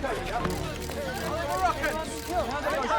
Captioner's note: cameras clicking; reporters chattering